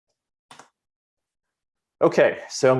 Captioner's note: keyboard clicks